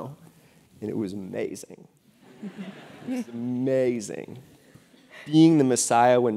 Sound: laugh

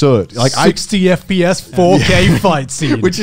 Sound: laughing

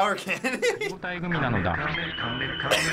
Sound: man speaks Japanese; giggles

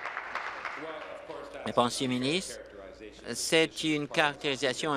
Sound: applause

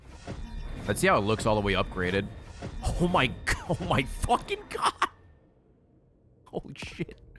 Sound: laughs

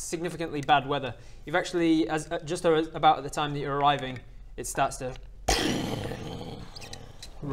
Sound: booooommm

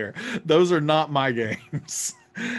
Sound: laughs

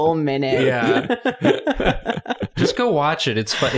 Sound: laughter

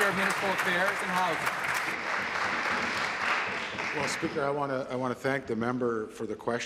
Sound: applause

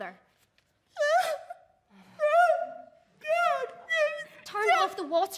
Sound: song sobs again

